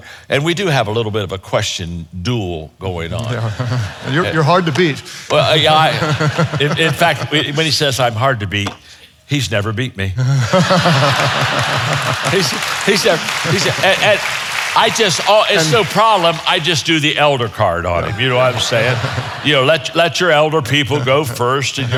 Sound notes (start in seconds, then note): 3.2 audience chuckles; 5.3 chuckles; 5.3 audience chuckles; 10.3 audience laughing; 10.5 audience applauding